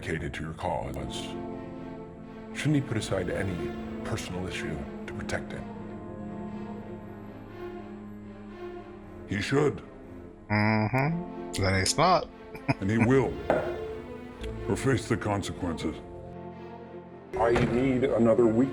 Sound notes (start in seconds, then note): 12.5 chuckling